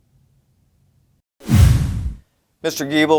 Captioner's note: whoosh; resonating boom